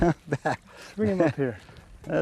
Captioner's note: laughter